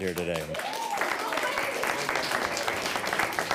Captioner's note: all clapping